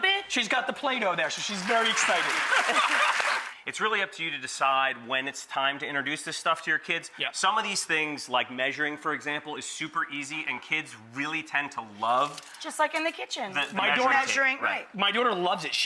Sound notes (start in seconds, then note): 1.2 audience claps; 2.1 laughs